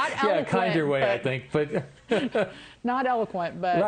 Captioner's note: laughter